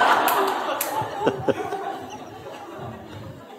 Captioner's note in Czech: smích